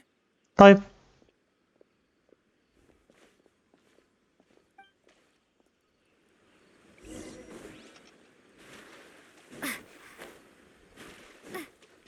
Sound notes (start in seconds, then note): 0.2 footsteps thudding; 3.2 Tanari grunting